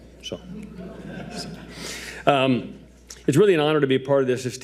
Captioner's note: audience laughing